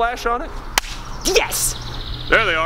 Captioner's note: claps